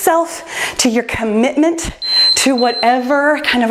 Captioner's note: timer beeps